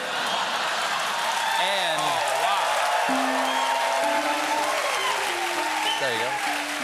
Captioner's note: laughter; cheers and applause